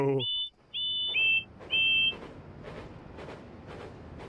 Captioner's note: bill and ben whistle